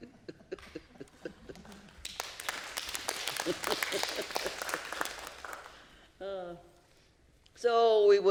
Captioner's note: laughs